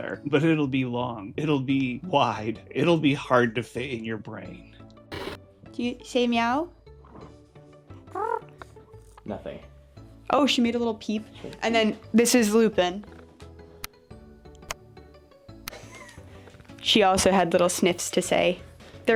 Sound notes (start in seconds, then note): 5.1 TV noise